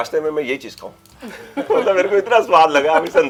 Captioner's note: laughter